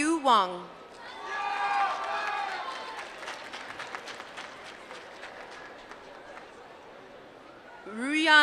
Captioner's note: applause